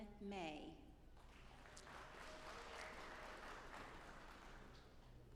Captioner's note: audience applauding